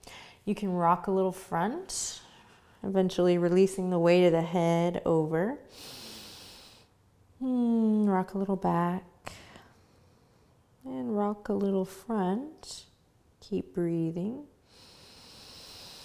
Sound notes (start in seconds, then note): 5.6 inhales deeply; 14.6 inhales